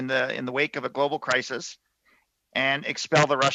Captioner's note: speaking French